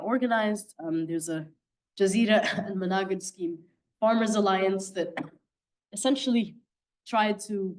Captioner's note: coughing